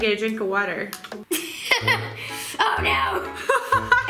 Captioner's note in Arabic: يضحك